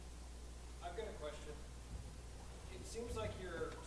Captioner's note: voiceover